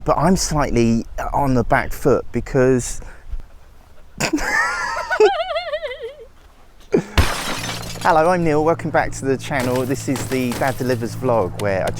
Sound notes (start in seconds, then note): 4.2 laughter